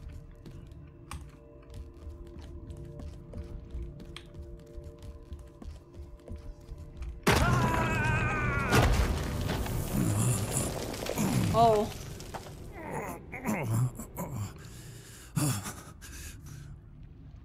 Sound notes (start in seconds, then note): 7.2 Gun Fires, John Screams; 9.8 John Groans; 12.8 John Groaning, Shaking Breaths